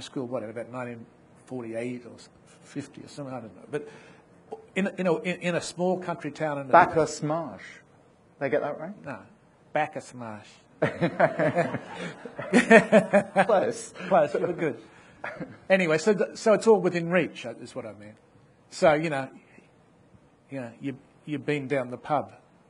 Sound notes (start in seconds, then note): 10.8 people laughing; 10.8 laughs